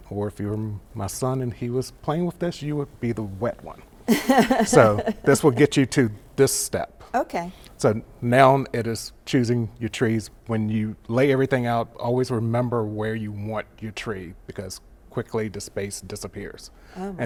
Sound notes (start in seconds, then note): 4.0 laughs